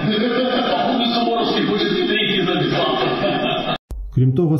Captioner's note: laughs